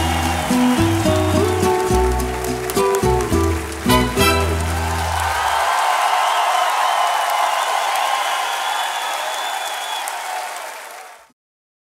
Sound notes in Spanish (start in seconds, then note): 5.3 Aplausos y vítores